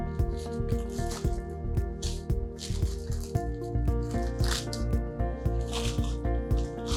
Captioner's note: pleasant music; paper rustling